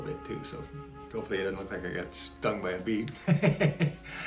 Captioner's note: laughs